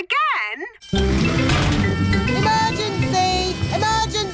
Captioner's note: siren blaring